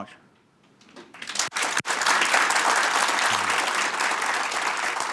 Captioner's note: applause